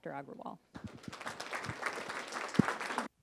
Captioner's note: applause